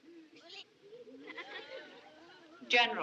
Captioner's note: children Chattering, Laughing